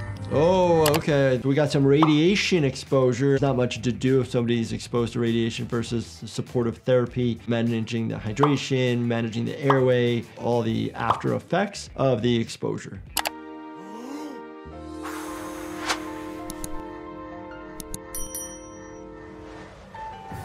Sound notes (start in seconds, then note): 13.2 mouse clicking; 14.7 splendid blowing; 16.4 mouse clicking; 18.0 bell ringing; 19.0 tense descending music